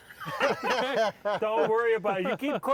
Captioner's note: hosts laugh